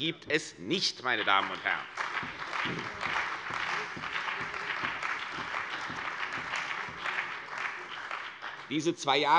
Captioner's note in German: Beifall bei der CDU und dem BÜNDNIS 90/DIE GRÜNEN